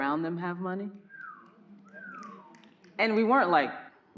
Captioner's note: audience member whistling